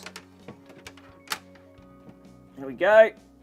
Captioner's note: muffled clattering